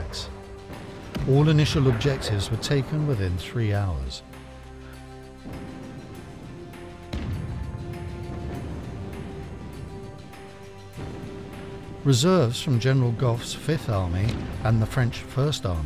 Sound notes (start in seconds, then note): 6.7 dramatic music; 7.1 explosions boom